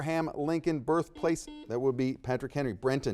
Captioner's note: buzzer dings